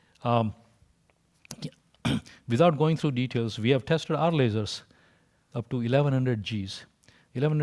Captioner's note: cough